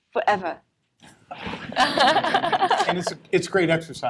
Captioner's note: laughter